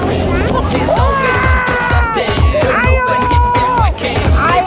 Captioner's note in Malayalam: നിലവിളിക്കുന്നു